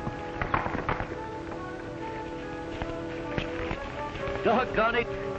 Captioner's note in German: Hufe klappern